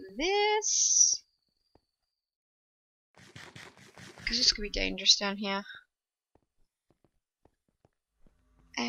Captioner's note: chomp chomp chomp chomp